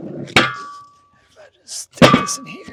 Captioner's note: metal clangs